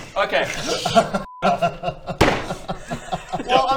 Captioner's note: slam